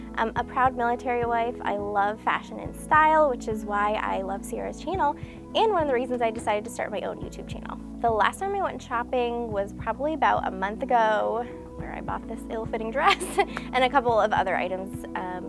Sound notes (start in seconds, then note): 13.4 laughs